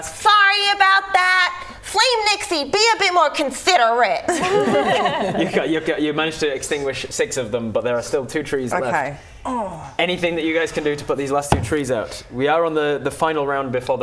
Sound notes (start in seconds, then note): 4.2 laughing